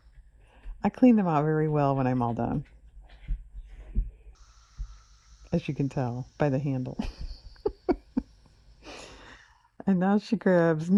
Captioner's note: laughs